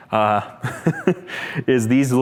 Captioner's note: chuckles